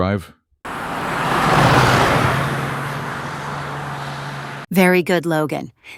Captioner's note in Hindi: पुनर्संयोजित कार चल रही है।